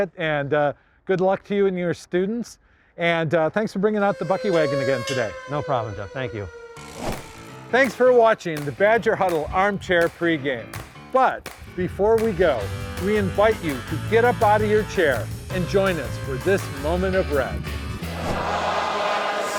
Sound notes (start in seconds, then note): 3.9 Bucky Wagon siren blaring; 6.9 upbeat jazzy music; 7.7 swooshes; 17.9 crowd singing